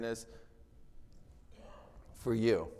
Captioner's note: attendee coughing